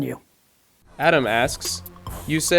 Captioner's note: voiceover